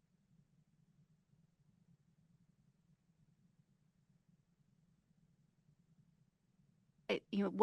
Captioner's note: audio Missing